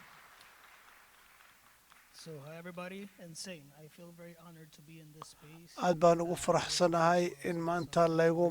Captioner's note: applause